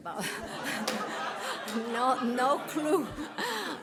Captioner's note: audience laughs